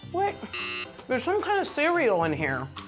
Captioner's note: buzzer